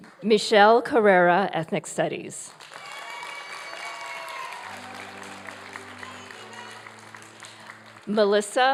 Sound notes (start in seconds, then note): 2.4 applause